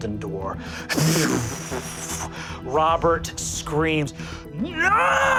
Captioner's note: imitates air whooshing